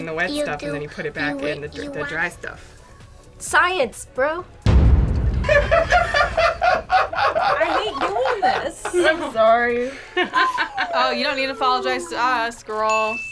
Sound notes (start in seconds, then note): 5.4 laughs